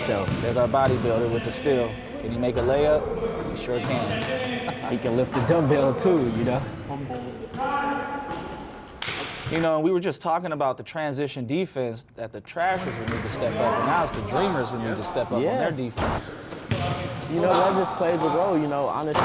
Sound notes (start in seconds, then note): 4.3 laughing